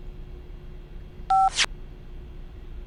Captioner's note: beep